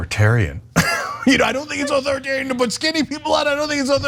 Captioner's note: laugh